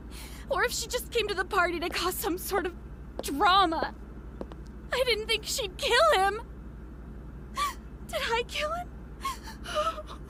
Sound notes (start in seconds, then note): 7.5 Emilia starts crying